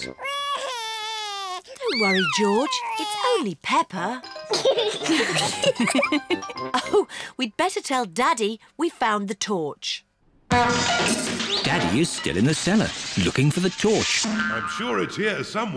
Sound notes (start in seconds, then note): 0.2 cries; 4.8 all laugh; 10.5 crashing